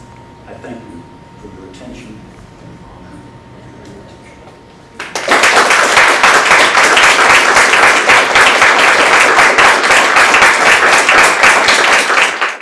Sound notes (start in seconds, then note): 5.0 applause